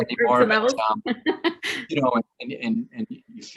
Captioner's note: laughs